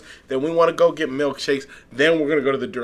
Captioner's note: none